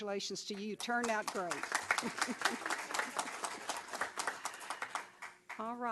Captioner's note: applause